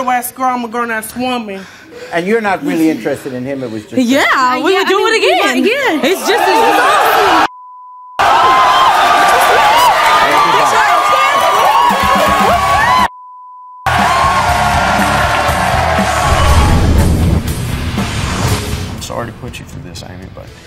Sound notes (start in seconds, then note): 8.2 audience cheering; 13.1 beep; 14.1 metal music